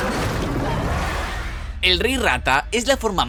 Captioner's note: groan; scream